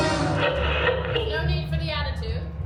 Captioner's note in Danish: radioknatren